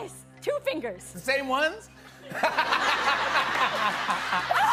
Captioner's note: laughter